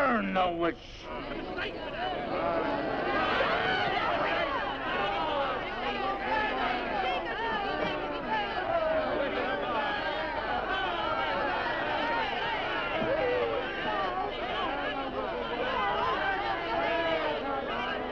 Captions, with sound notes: - Burn the witch. (crowd shouting) - Burn her. - Burn her. - Please no. No.